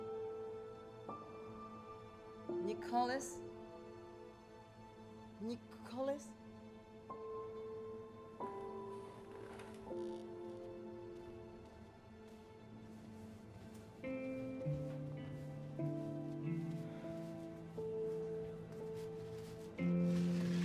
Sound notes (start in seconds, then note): 9.0 bed creaks